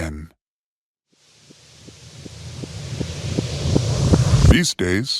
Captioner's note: rising hiss